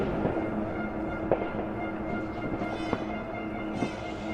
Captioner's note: horns beeping